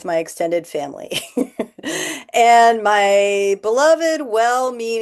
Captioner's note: laughter